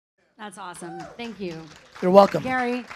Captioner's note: audience applauds